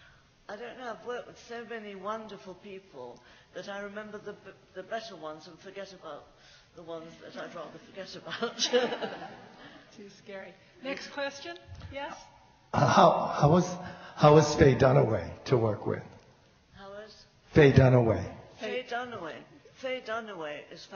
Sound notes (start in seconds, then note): 8.3 laughs; 13.1 loud microphone